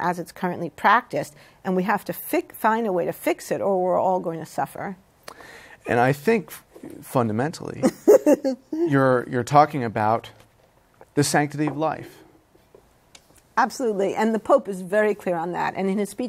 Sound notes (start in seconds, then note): 7.8 laughs